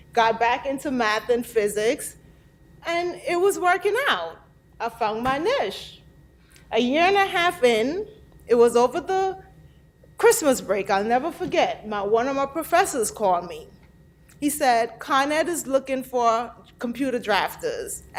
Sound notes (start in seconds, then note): none